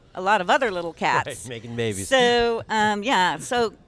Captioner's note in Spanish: risas